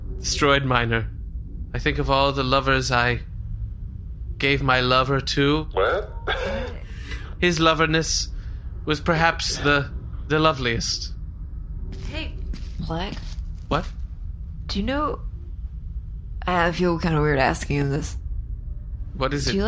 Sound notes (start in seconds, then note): 11.7 hushed